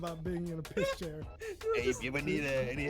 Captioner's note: laughs